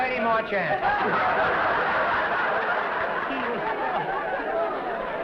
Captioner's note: laughter